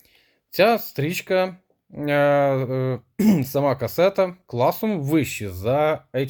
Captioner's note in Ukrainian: прочищення горла